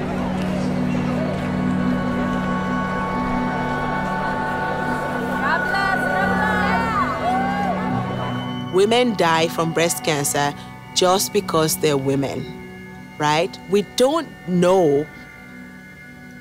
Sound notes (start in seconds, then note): 5.5 cheering